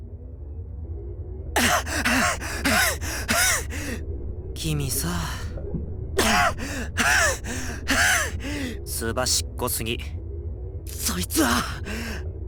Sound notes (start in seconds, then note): 1.6 winded; 6.2 catching breath